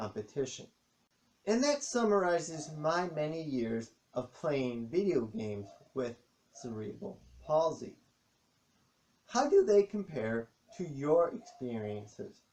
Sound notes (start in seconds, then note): 1.6 dogs barking in the background